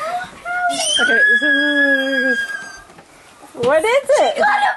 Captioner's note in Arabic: صراخ